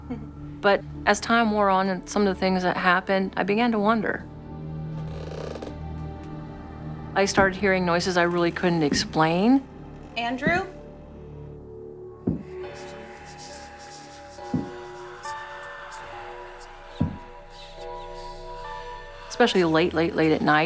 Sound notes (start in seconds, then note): 5.0 floors creaking; 12.3 distant thumping; 12.3 eerie music